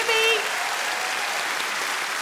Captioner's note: audience applauds